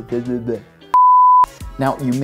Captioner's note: beeping